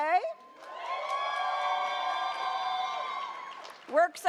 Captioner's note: audience cheers